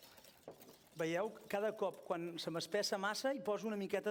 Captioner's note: non-english speech